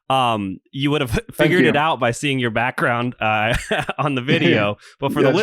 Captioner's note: laughs